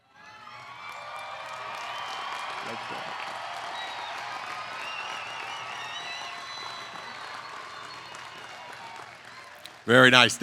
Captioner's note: applause